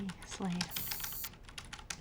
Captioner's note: keyboard clacking